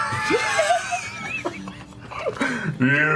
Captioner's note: laughs; laughter